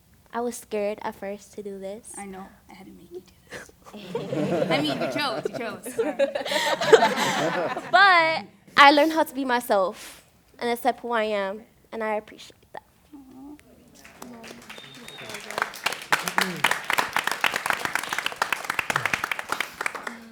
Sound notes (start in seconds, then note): 3.9 laughter; 13.9 applause